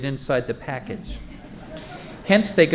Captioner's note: laughter